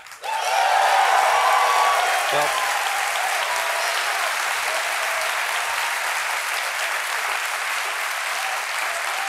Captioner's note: applause